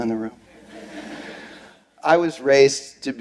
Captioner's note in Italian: Risate